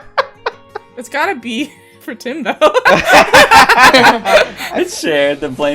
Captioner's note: laughter